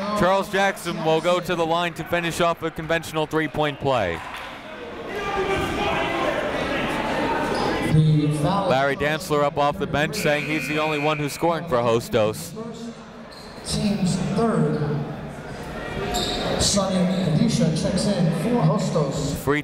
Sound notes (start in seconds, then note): 5.6 chatter